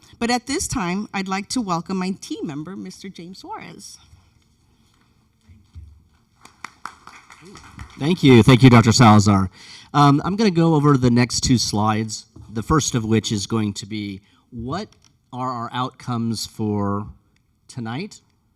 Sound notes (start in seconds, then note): 6.3 audience applauds